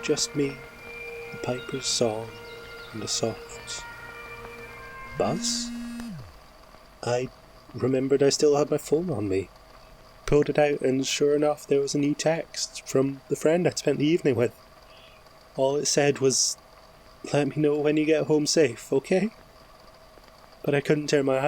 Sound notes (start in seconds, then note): 5.0 fx: mobile phone vibrates; 6.2 fx: bagpipes and birdsong end abruptly